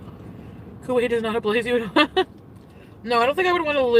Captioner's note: laughs